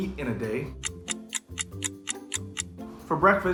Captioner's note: clock ticking